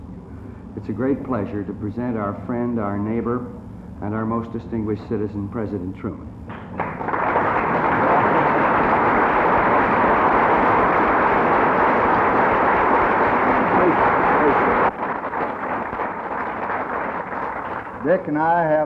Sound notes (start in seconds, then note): 6.5 applause